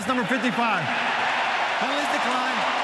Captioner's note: cheering